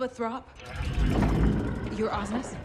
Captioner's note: mechanical droning